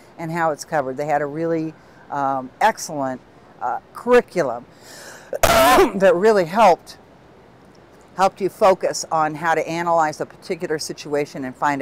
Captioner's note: cough